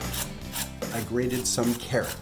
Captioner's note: grating